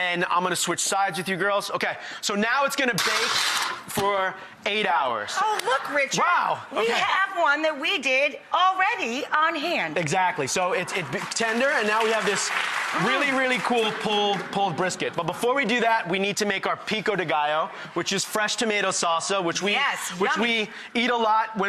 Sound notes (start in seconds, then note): 10.7 applause